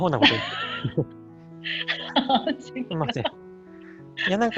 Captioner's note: laughs